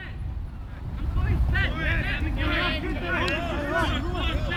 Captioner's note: players shouting